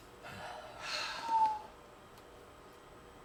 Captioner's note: heavy sigh